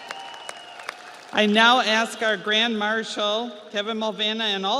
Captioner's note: audience cheers; audience applauds